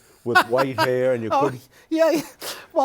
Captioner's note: laughing